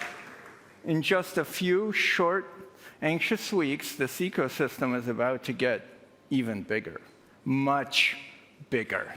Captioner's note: applause